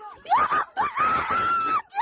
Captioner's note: screaming